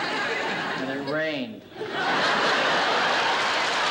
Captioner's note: laughter and applause